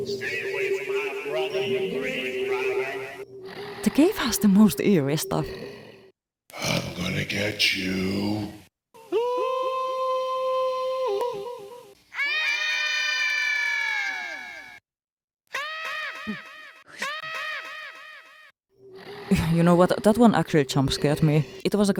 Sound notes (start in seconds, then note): 19.4 eerie noise with screaming children; 19.4 skeleton bird screaming